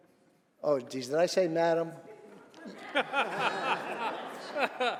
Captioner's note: laughter